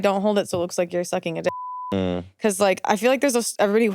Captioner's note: beeps